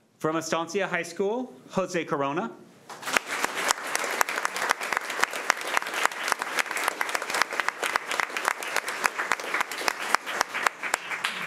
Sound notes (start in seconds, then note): 2.9 crowd clapping